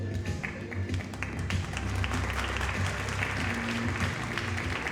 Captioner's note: audience applauding